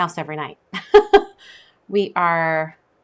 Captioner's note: laughs